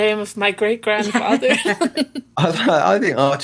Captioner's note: laughs